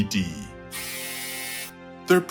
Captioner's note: buzz